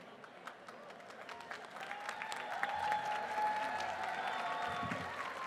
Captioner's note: applause